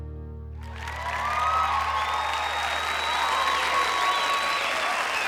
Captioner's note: crowd clapping and cheering